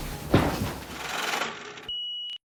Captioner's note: machine grinding; beep sounds